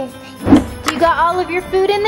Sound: air whooshing

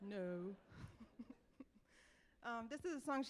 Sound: laughs

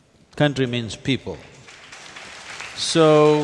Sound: applause

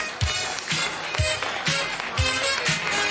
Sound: applause

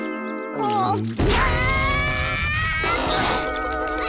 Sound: screaming

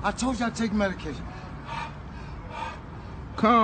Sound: wheezing

